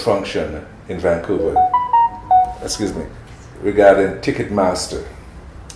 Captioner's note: ringtone tune